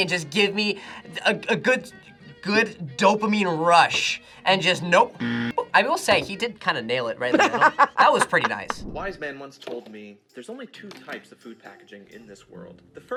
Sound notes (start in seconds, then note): 5.2 buzzer rings; 7.3 laughs